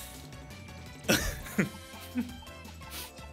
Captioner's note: giggle